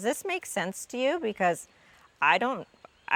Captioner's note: none